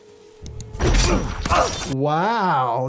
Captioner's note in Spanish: personaje gruñendo